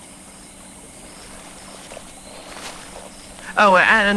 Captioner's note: Alastor walking fx